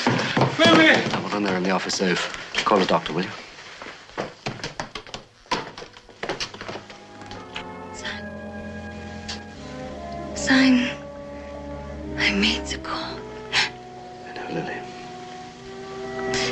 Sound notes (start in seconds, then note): 13.1 gasps